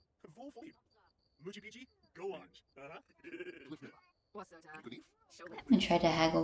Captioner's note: sims talking